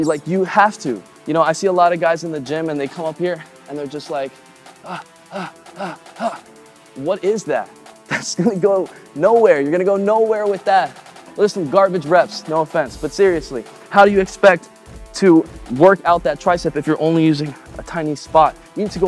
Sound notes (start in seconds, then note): 5.3 panting